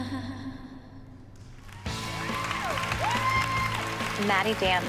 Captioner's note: cheering